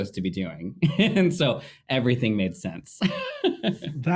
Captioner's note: laughing